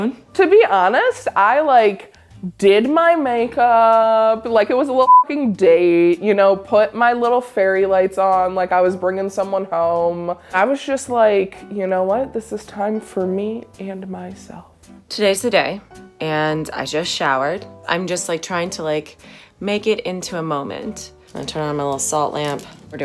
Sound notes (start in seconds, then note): 5.0 beep